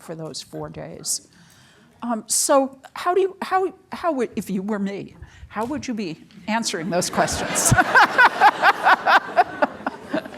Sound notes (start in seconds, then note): 6.8 laughs